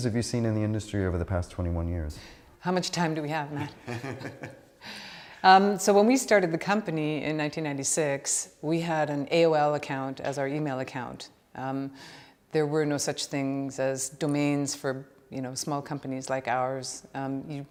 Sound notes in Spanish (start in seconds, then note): 3.5 risas